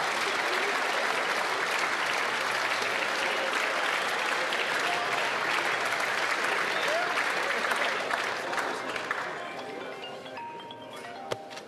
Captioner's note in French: applaudissements